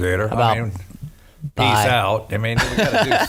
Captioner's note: laughs